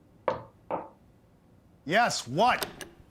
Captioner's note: knocking on door